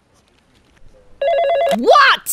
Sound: phone rings

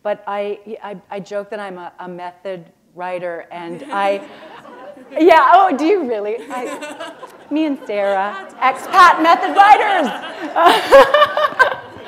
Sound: laughter

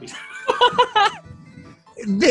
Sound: laughter

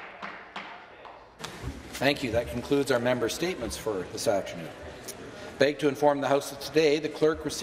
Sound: some Applause

